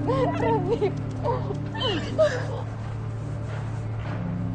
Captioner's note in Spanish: Sollozos